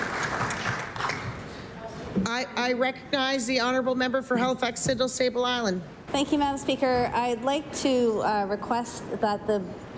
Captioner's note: applause